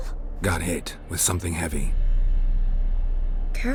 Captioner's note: none